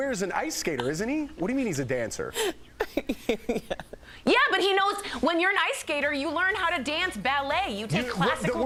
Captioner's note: laughter